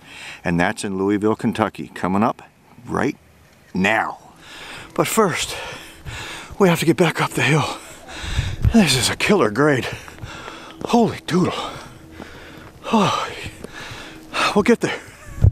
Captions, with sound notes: that's in Louisville Kentucky. Coming up right now. But first we have to get back up the hill. [panting] This is a killer grade. Holy Doodle. Oh, we'll get there.